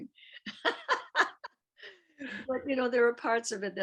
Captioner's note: laughs